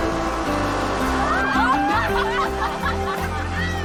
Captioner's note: laughing